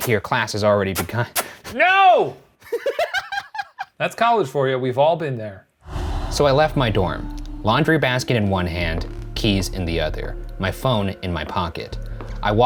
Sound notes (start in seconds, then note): 2.6 laughing; 5.8 air whooshing